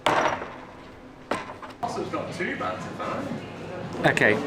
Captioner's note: gate opening and closing; background chatting